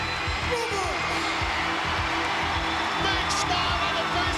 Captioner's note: crowd cheering